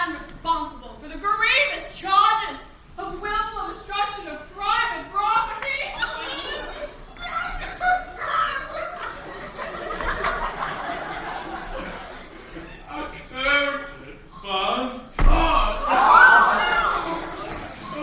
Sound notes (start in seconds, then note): 6.2 Rudolph crying; 15.2 crowd reacts verbally